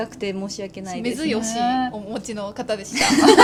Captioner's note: laughs